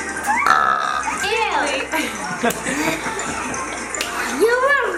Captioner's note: burps loudly; laughs